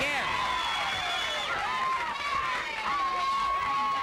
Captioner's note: crowd yelling